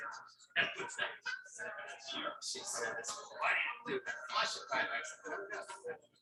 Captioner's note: people chattering indistinctly